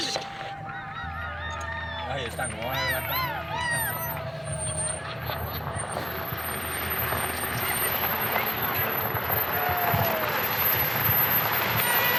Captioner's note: people cheering from the passing vehicle